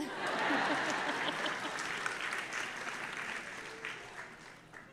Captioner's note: audience laughing